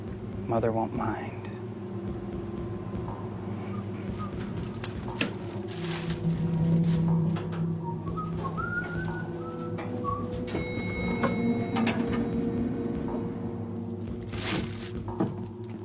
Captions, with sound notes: Mother won't mind. (Simon whistling) (elevator dings)